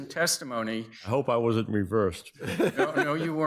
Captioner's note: chuckling